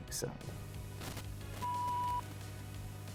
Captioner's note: upbeat music; beep